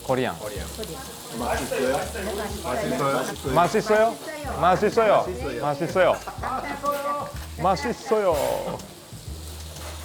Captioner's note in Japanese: 韓国語